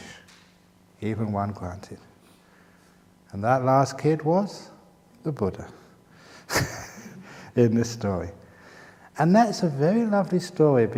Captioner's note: chuckles